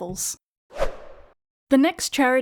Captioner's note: whoosh Sound